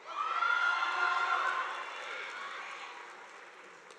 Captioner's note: audience applauding